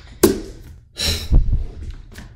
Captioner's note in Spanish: exhala